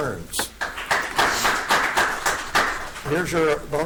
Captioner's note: audience applauds